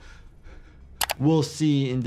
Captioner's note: mouse clicks